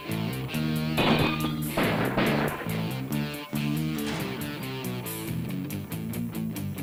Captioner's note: gun fires; ceramic shatters